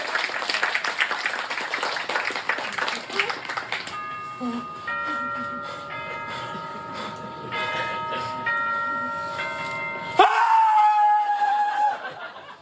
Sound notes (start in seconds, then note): 3.1 6AM chimes; 10.2 screams of terror